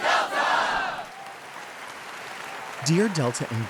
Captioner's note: audience cheering